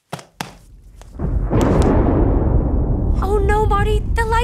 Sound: air whooshing; thunder rumbling

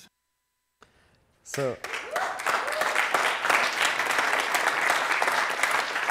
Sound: audience applauding

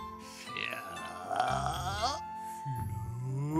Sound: moaning; soft groan

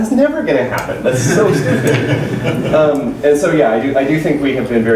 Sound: laughter

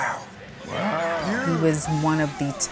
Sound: supporters cheering

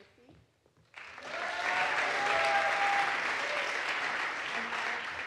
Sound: audience applauds

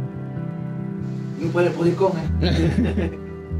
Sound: laughs

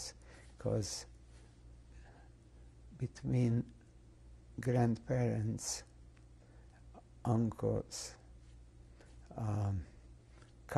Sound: pauses for 3 seconds

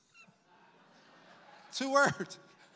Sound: congregation laughs

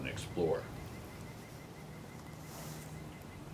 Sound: birds chirping

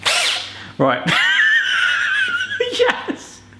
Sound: laughing

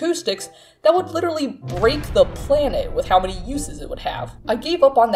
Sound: explosion sound

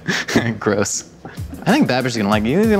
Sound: laughs

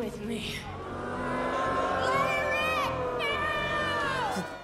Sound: audience moos

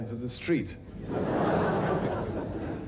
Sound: audience laughing

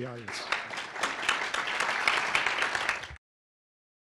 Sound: applause

